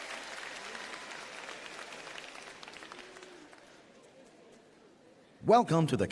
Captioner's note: applause